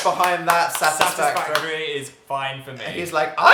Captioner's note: applauding